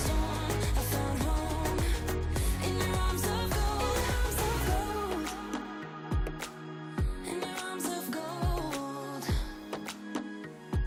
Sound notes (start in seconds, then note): none